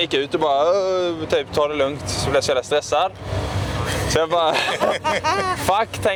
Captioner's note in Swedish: skratt